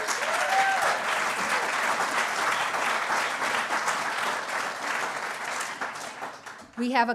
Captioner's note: applause